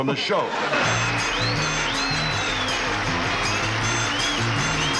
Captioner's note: laughing; upbeat instrumental music